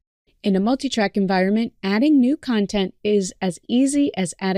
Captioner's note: none